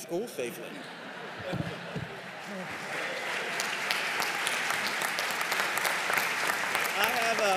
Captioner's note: laughter and applause